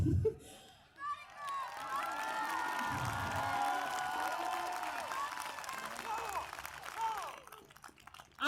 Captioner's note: cheers applause